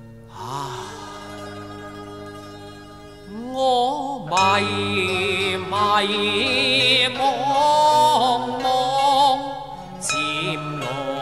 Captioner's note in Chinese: 禿頭起禪院鐘聲